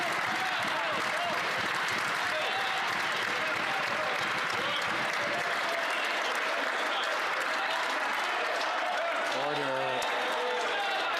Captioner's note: some Applause